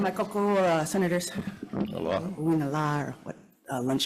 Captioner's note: speaks Hawaiian